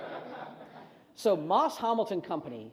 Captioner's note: audience laughs